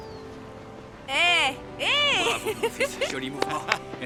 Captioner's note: laughs